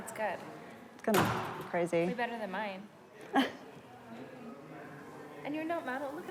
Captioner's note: chuckles